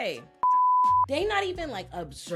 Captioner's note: beep